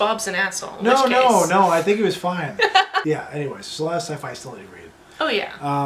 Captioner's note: laughter